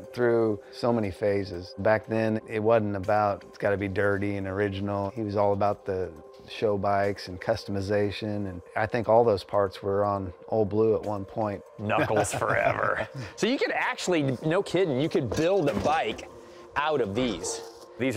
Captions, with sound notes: Ol' Blue went through so many phases. Back then, it wasn't about it's got to be dirty and original. He was all about the show bikes and customization. And I think all those parts were on Ol' Blue at one point. Knuckles forever. [laughter] So you could actually-- no kidding, you could build a bike out of these.